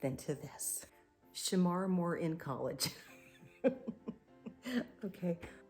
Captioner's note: laughs